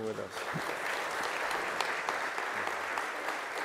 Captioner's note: applause